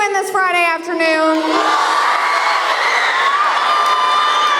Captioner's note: crowd cheering